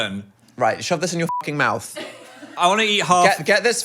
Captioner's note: beep